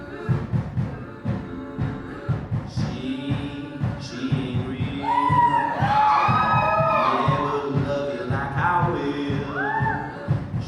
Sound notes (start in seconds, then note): 5.0 audience cheers